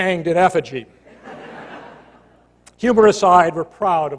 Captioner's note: laughter